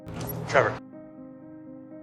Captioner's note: over comms